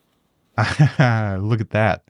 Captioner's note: narrator laughing